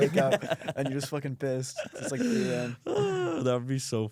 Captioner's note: laughs; groans